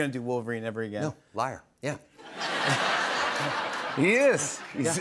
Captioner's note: laughter